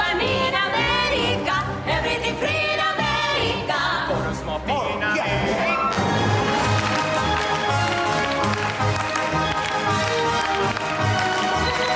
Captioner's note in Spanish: aplausos